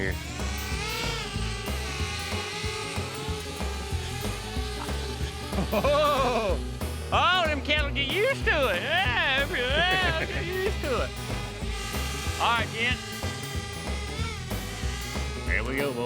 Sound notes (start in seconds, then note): 1.5 drone spinning